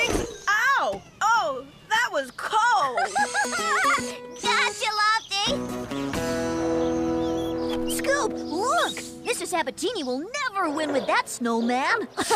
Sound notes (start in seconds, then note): 2.5 laughing